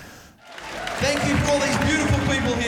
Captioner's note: crowd cheering